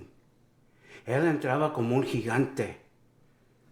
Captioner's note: Spanish